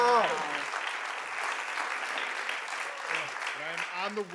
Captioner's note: audience clapping